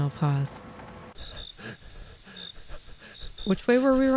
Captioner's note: forest sounds resume